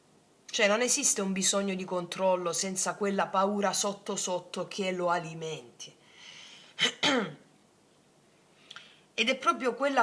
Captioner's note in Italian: schiarire la voce